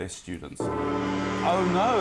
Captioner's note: gong